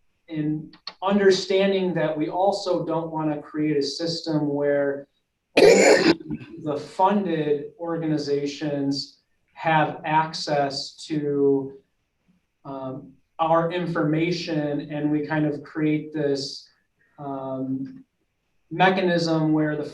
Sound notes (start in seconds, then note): 5.6 voice muffled by coughing